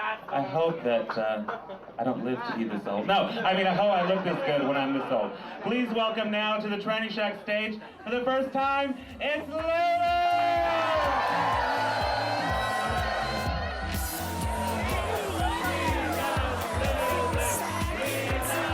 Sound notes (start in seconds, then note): 13.0 crowd cheers; 14.4 chanting